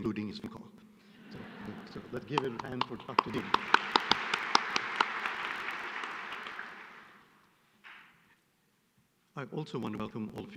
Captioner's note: applause